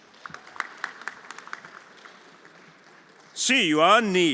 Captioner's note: everyone applauding